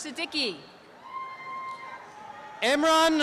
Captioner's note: applause and cheering